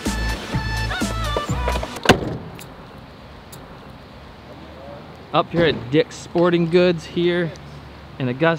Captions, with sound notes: (truck door closes) - Up here at Dick's Sporting Goods here in Augusta.